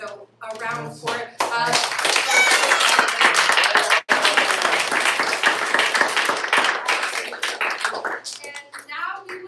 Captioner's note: applause